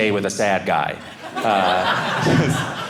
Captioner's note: audience laughing